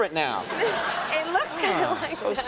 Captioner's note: audience laughing